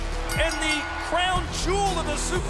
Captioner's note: bell ringing